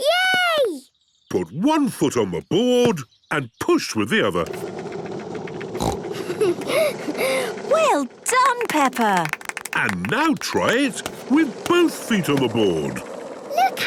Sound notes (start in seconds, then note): 5.8 giggles, snorts